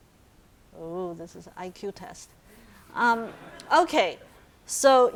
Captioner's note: audience laughing